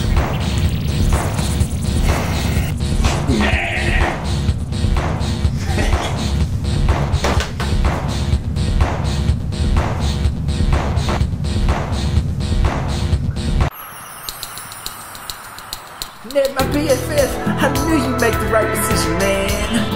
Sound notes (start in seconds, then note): 0.0 dance music; 5.5 chuckles